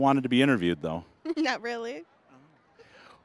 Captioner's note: giggling